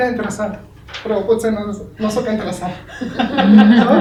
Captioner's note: laughs